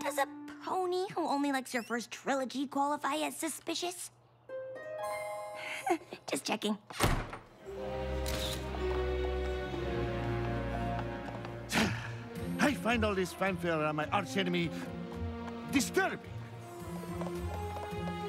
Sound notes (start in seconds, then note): 8.2 camera shutter snaps; 11.6 sighs